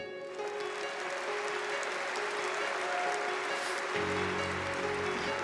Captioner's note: audience clapping